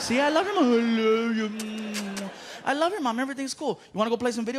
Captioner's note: kissing